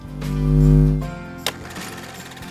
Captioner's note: humming; upbeat music